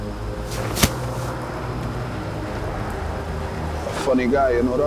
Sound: bag thuds on ground

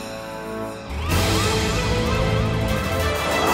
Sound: siren wailing

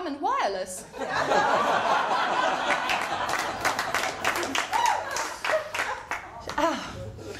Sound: laughter & applause

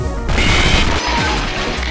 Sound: screams

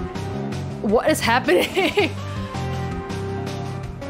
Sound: laughs

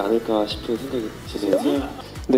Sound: pfft

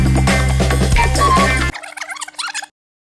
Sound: tape rewinds

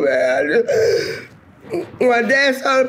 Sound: gasping

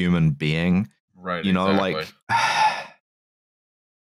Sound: sighs

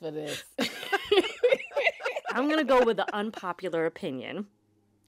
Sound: laughter

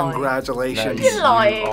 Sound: both laugh

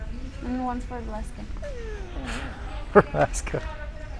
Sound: dog whimpering

